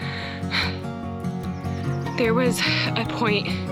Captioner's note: panting